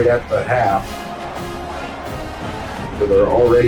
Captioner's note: crowd Noises